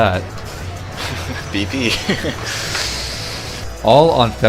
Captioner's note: laughs